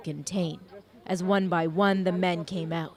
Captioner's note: sirens